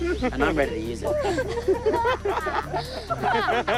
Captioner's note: laughter